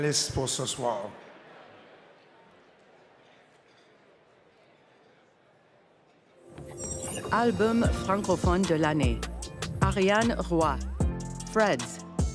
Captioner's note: speaking french